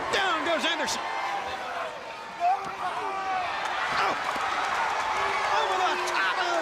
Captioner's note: crowd cheering